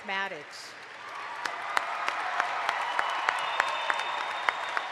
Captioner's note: audience applauds